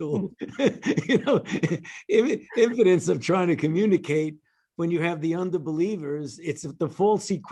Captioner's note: laughter